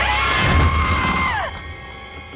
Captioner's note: startling sound effects; screaming